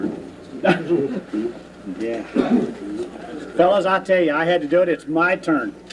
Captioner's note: laughing